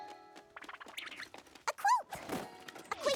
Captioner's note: flutter!